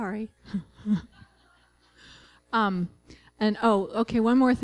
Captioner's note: laughter